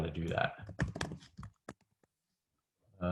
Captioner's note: typing